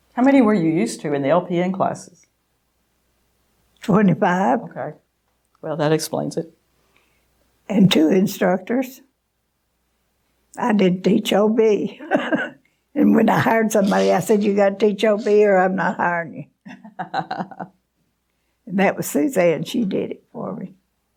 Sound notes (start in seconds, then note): 16.6 laughing